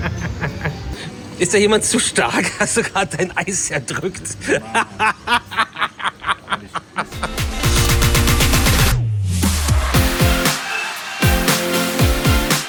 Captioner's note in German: gelächter